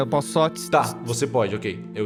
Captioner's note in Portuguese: ts, ts, ts